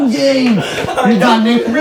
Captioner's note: laughing